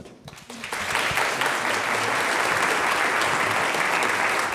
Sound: audience applauds

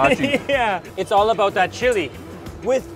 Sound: laughs

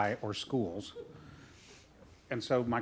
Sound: chuckling

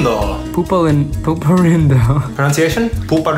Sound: laughs

